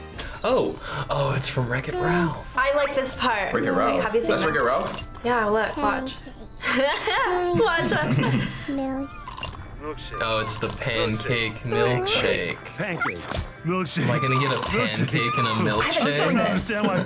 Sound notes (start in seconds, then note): 6.2 laughs; 6.5 chuckles